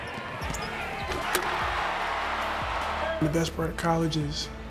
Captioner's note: crowd cheering